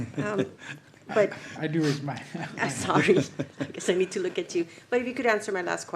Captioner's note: laughter